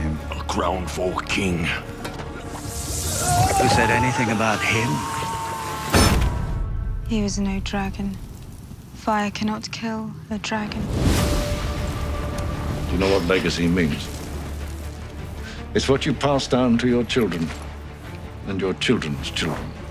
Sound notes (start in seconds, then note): 2.1 molten metal bubbling; 2.9 screaming; 5.5 thuds